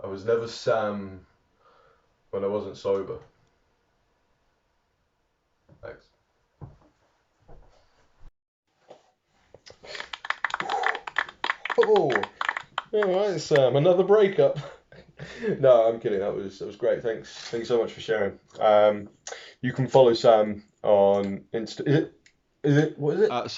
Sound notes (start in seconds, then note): 9.7 gentle hand flapping